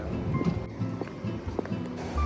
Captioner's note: Marching